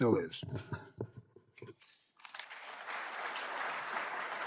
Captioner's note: applause